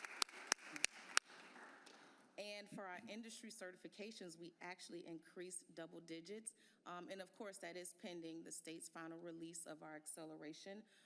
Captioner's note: applause